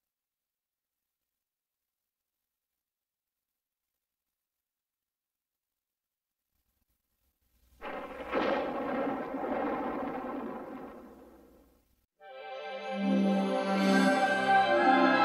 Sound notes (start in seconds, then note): 0.1 silence; 7.8 rocks falling; 12.2 wondrous fanfare playing